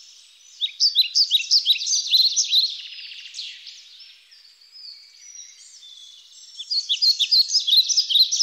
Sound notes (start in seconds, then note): 0.7 birds chirp